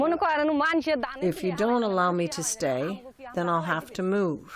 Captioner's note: through translator